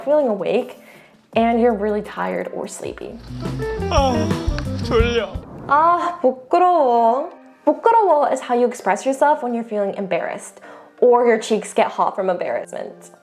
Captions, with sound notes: feeling awake and you're really tired or sleepy. (enthusiastic music) (character speaking in Korean) (speaking in Korean) (speaks in Korean) is how you express yourself when you're feeling embarrassed, or your cheeks get hot from embarrassment.